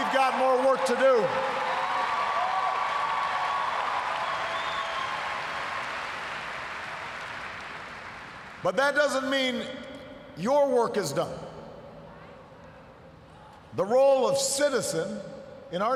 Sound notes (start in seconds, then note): 5.9 cheers, applause